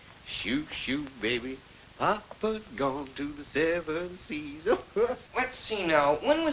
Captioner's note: laughs